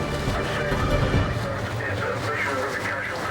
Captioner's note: intense music; waves crashing; radio vocalizing; wind whooshing